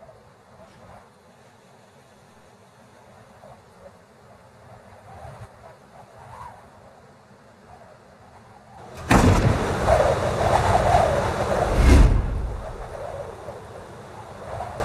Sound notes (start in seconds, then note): 9.0 door clanks; 12.7 wind whistling